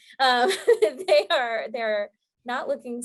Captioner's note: laughing